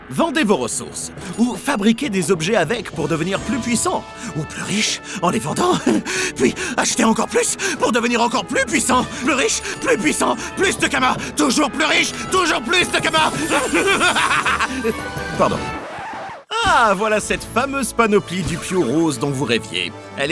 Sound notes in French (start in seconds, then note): 5.3 rire nerveux; 13.2 rire diabolique